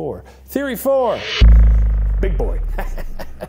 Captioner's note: spring boings; chuckles